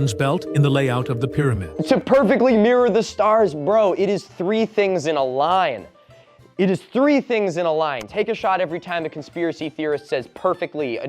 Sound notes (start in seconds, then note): 6.4 exasperated